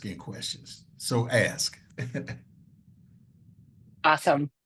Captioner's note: chuckles